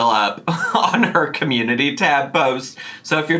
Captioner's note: chuckling